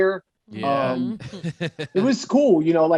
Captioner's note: laughing